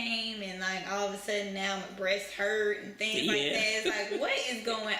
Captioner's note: laughter